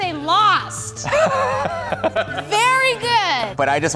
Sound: laughter

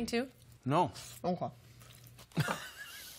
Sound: with mouth full; chuckles

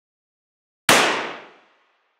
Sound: gunshot

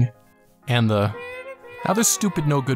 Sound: Wild PewDiePie Screams

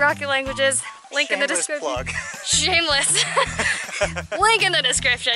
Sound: laughter

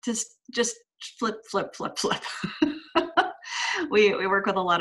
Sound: laughs

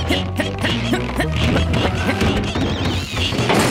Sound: grunting; cackling

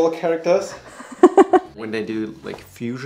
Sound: laughs

